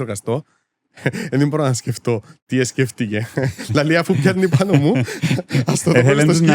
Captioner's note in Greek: γέλιο